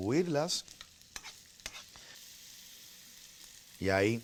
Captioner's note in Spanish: chisporroteo